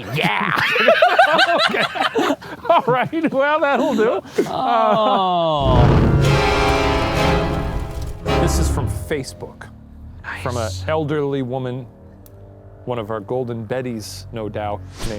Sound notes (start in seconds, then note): 0.0 laughing; 5.6 smoke whooshing; 5.6 intense eerie music